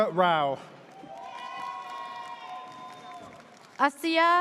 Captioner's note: audience cheers